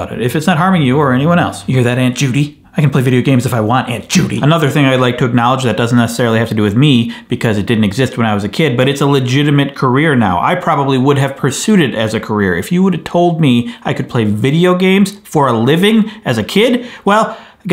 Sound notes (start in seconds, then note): none